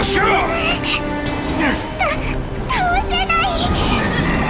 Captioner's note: sob